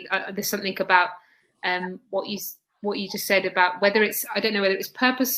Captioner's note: erm